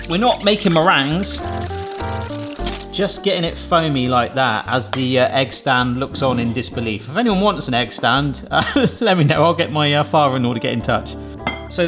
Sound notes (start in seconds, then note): 0.0 whisk rattling; 1.5 light jazz music